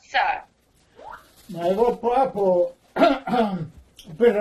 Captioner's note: clears throat